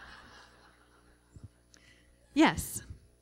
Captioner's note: laughter